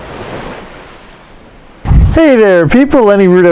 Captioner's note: waves lapping